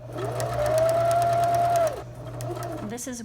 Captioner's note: sewing machine hums